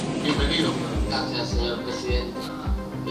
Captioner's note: on TV